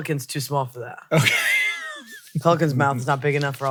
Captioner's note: laughs